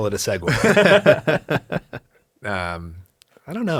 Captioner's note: both laugh